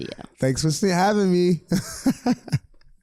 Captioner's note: laughs